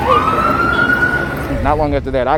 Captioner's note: siren wailing